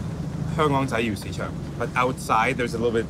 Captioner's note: speaks in foreign language